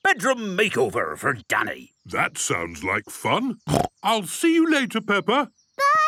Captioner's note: snorting